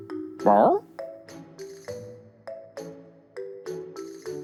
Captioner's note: bark?